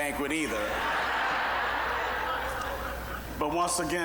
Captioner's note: audience laughing